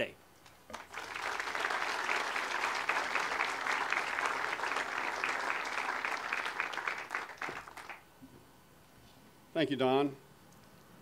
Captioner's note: audience applause